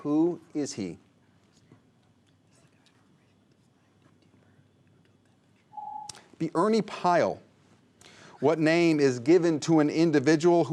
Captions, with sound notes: Who is he? (whispers) (ring) - Ernie Pyle. What name is given to an individual